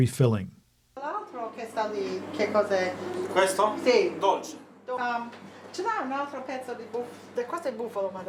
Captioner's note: ambient noise, people speaking Italian